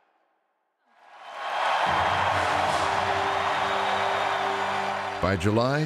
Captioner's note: cheers